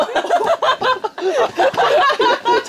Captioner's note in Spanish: Jajaja